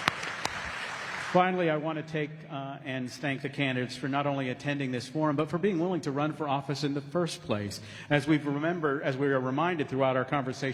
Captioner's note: applause